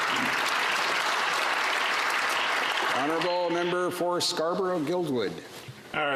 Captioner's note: applause